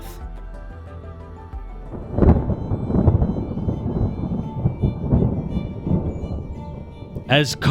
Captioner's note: thunder